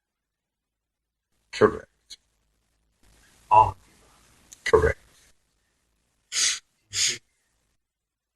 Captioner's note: sniff, sniff